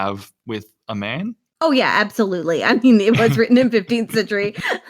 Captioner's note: laughs